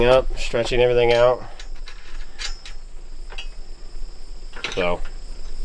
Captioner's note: clanking